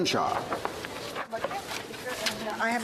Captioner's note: speaking French